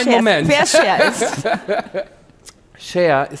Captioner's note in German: Lachen